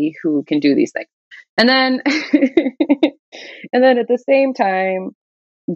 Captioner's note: laughter